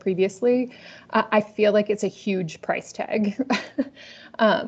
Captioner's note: laughs